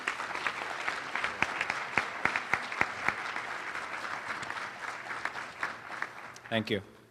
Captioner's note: applause